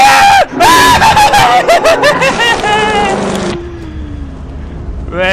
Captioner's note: dying screams